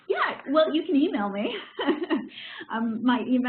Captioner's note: laughs